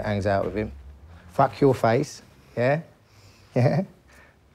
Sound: laughs

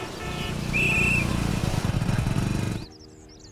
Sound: cars honking; whistle blowing

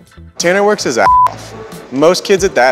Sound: beep

